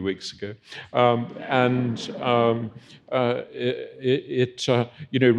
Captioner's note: audience chuckling